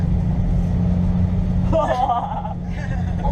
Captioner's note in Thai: เสียงหัวเราะ